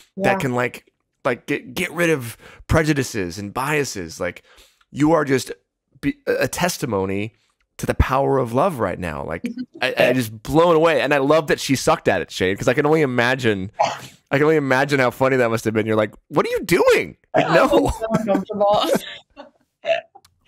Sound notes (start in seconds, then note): 17.3 laughs